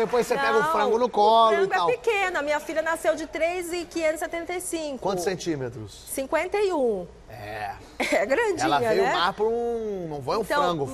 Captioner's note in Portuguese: risos